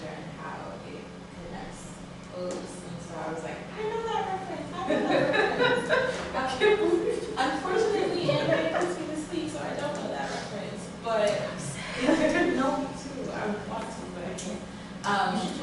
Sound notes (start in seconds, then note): 11.5 whispering